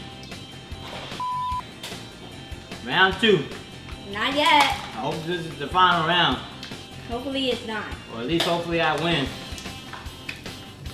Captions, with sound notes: (beep) - Round two. - Not yet. - I hope this is the final round. - Hopefully it's not. - But at least hopefully I win.